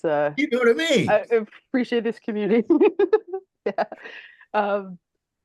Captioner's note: giggling